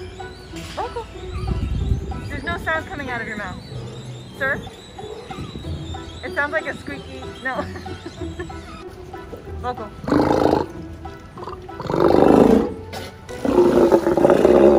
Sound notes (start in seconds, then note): 7.0 laughs; 11.3 sea lion roars